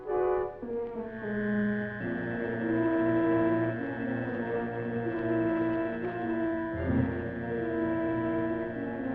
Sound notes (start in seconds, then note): 1.2 machine whirring; 3.3 tense music